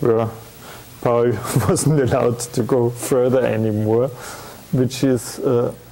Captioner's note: chuckling